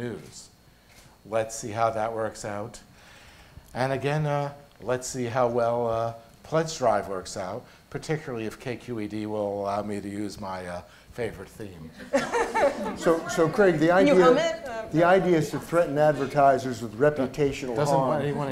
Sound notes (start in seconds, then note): 11.9 laughter